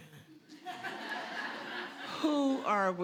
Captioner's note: audience laughs